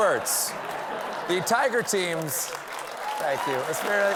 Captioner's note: laughter; applause